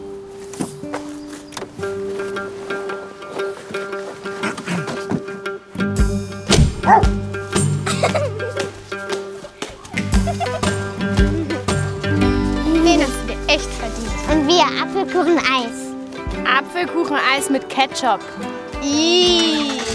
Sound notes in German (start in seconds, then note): 4.4 räuspert sich; 7.9 Hundegebell, Lachen; 9.9 Entspannte Musik; 18.6 Angeekelter Laut